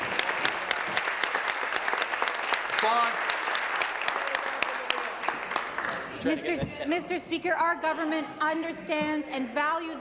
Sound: applause

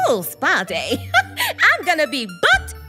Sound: giggles

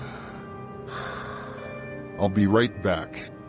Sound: exhale; inhale

